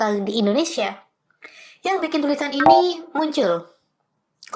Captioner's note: bonk